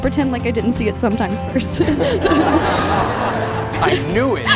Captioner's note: laughs